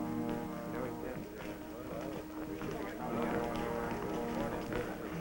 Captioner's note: chatter